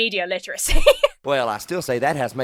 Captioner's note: laughs